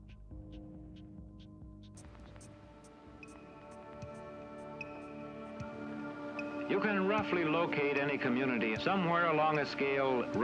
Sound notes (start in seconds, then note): 1.8 clock ticking; 2.4 dramatic orchestral music